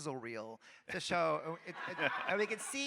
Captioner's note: audience laughing